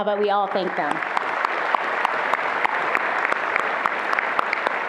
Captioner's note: attendees applauding